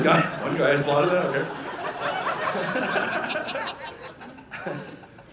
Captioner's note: audience laughing